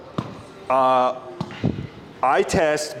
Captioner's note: club-head thumping